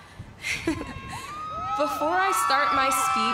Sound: chuckles

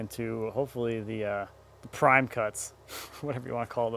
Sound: laughs

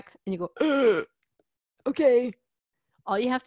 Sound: gasps

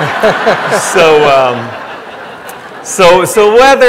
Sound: audience laughing

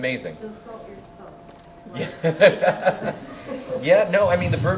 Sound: laughter

